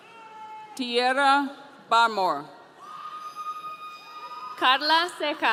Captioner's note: audience cheering